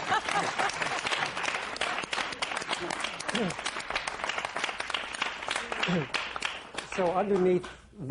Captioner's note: laughter